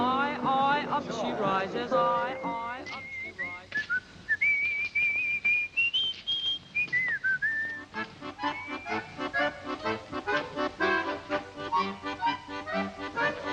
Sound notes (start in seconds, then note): 2.2 whistling; 7.5 accordion music